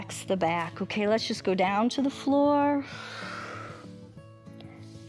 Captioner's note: exhales